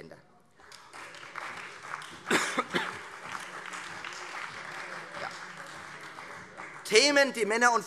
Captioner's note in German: Beifall Freie Demokraten, SPD und BÜNDNIS 90/DIE GRÜNEN